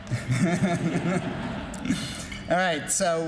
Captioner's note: laughing